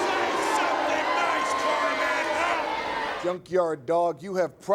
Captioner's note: crowd chattering